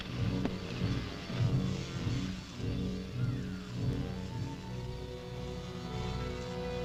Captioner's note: muffled buzzing; ominous orchestral music